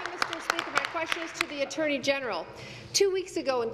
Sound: applause

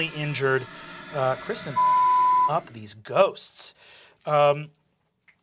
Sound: beep

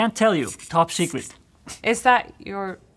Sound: sprays

